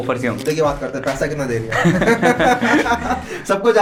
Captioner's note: laughter